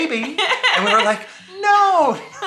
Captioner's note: laughs